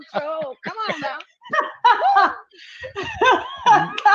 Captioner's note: laughing